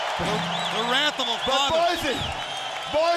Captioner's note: crowd cheering